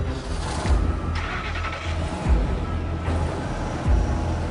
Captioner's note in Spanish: Sonido de la camioneta